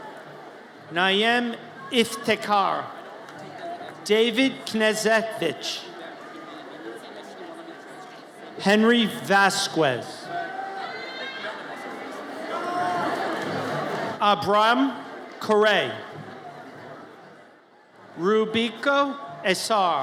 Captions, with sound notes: Nayem Iftekhar David Knezevich. Henry Vazquez. (audience cheers) Abraham Karey. Rubiquo Essar.